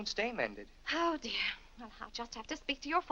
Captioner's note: sighs